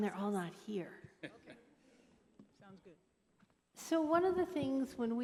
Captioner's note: laughter